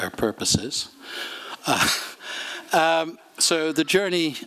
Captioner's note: laughter